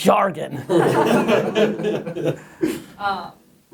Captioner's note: laughing offscreen